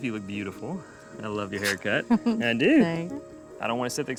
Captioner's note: giggles